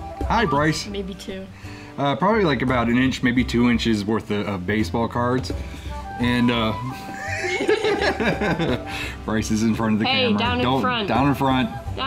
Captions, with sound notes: - Hi Bryce. - Maybe two. - Probably like about an inch, maybe two inches worth of baseball cards and--, (both laughing) - Bryce is in front of the camera. - Hey, down in front. - Down in front. - Down in front.